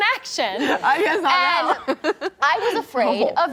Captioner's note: laughs